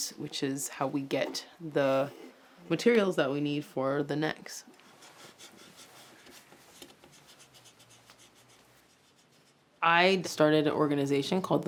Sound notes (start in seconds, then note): 5.3 chisel rustles